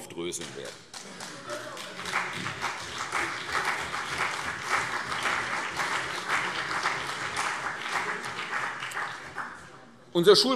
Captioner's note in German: Beifall CDU und BÜNDNIS 90/DIE GRÜNEN